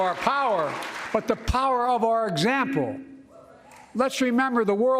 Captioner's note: applause